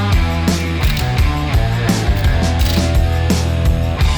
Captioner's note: drill Clicking